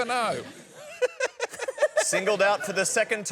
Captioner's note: laughter